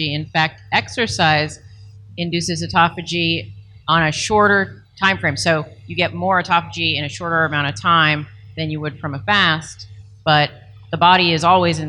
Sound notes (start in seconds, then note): none